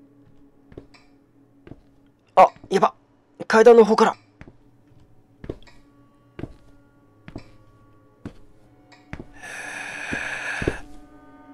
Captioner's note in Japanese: 足音：ｺﾂ…ｺﾂ…